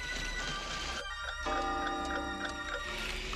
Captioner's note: clock chiming